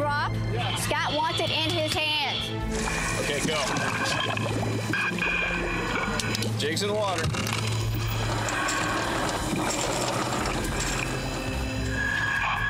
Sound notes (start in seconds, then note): 4.1 water bubbling; 11.1 tense music playing